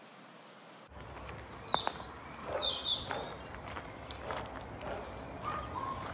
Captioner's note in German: Vögel zwitschern